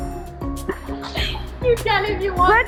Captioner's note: laughter